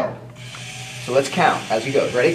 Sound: motor whirring

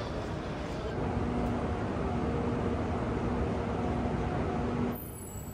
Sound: high-speed train

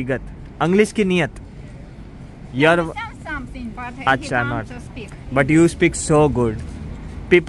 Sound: speaking russian

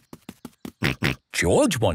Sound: snorts

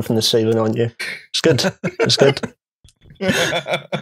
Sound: laughs

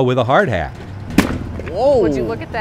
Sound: sledgehammer thuds

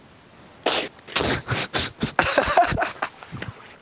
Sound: laughter

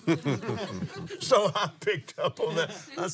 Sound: laughs

